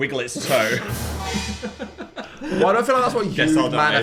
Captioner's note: dramatic music; both laughing